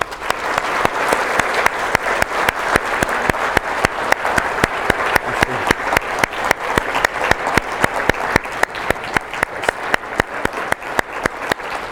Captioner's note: clap